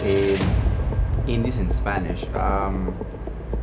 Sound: speaking in foreign language

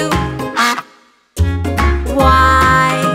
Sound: duck quacks

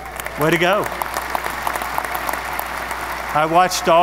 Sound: audience applause

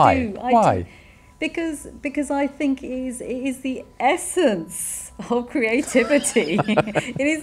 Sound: laughs

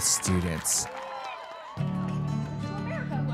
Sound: crowd cheering; gentle guitar music

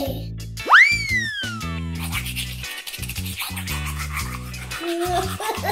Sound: Gaga Baby laughs; tooth brush scrubbing

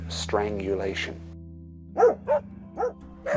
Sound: dog barking

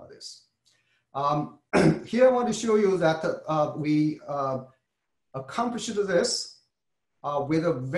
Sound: cough

